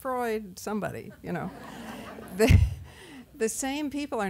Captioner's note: laughter